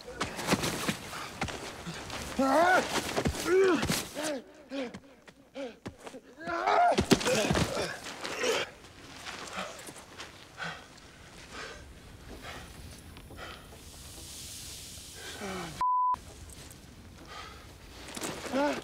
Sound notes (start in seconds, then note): 3.4 Steve groaning; 9.4 panting